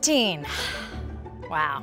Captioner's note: sighs